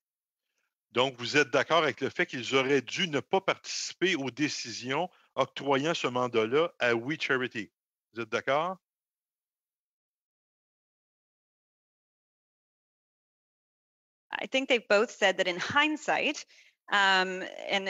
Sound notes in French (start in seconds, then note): 9.4 voix de l'interprète